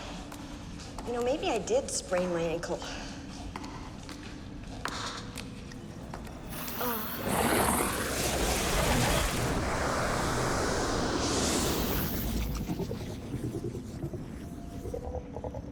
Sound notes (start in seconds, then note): 6.5 moans softly